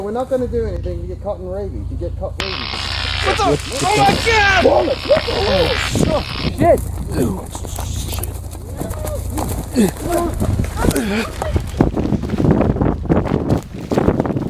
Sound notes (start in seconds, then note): 2.4 electric buzz; 6.3 woods rustling; 11.4 wind